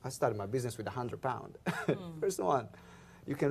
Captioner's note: laughs